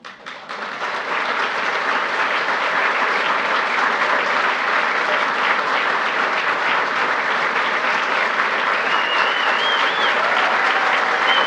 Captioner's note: applause